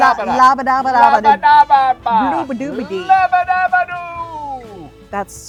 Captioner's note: both babbling